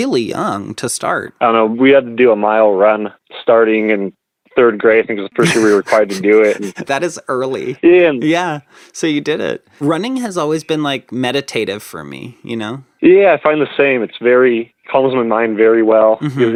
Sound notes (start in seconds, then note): 5.4 laughs